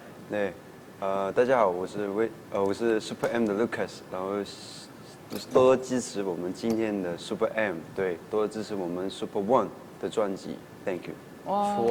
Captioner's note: speaking in Chinese